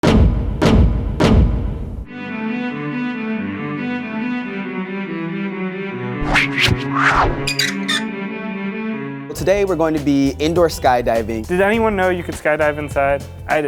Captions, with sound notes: (dramatic thudding) (classical cello music) - Well, today we're going to be indoor skydiving. - Did anyone know you could skydive inside?